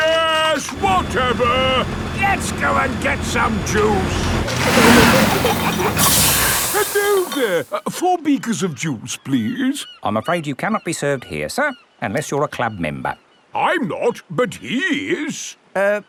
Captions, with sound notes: Yes, whatever, let's go and get some juice! (PEPPA AND GEORGE GIGGLING) (AIR HISSES) Hello there! Four beakers of juice, please. I'm afraid you cannot be served here sir, unless you are a club member. I'm not, but he is!